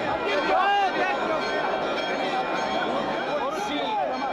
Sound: crowd yelling

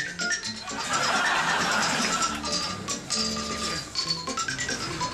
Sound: audience laughs

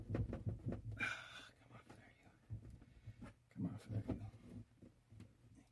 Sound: sigh

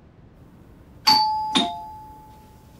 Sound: door bell rings

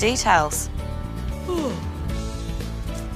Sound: yawns

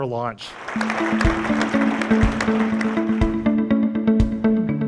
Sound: clapping and music

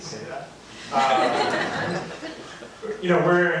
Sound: audience laughs

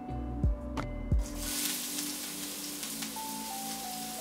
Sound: onions sizzle

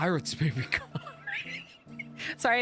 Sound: wheeze

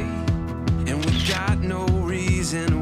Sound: camera clicks

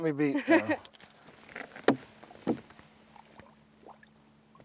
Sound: laughs

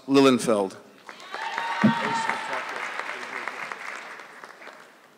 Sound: audience clapping

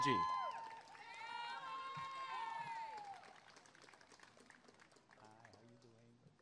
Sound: applause and cheering

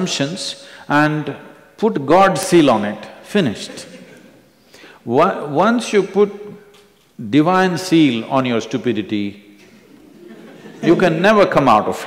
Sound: few laughs

